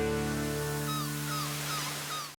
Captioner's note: birds squawking